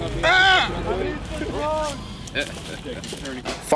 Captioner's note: laughs